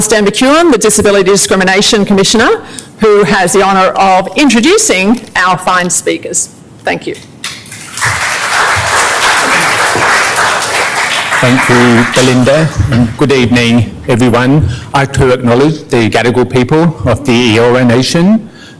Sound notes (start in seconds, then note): 7.4 applause